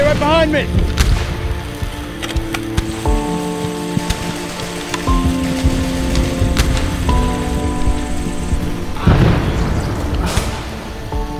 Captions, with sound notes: - Stay right behind me! (gunshots booming faintly)